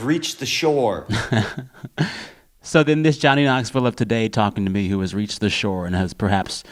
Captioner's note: laughter